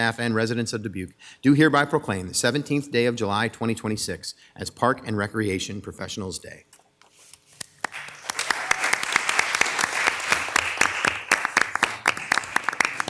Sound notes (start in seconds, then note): 7.6 crowd clapping